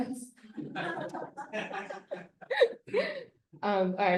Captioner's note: laughter